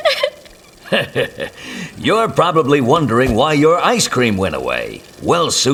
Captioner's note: laugh